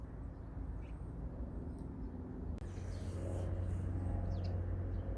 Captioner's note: none